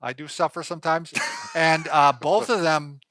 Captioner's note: laughing